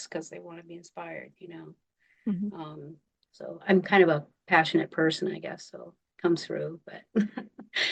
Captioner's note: laughing